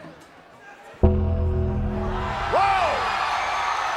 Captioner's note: gong rings; crowd cheers